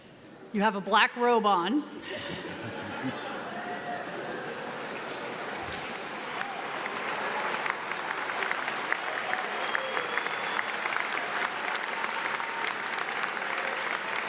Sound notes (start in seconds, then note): 5.2 audience applauds; 5.2 audience laughs